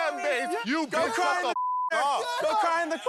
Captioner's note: beep